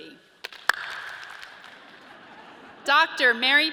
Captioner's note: audience claps; audience laughs